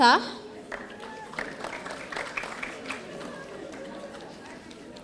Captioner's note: audience applauding